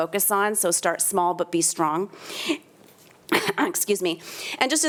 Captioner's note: coughs